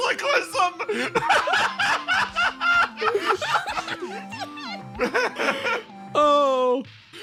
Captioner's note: laughs